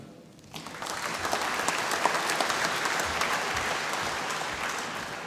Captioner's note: applause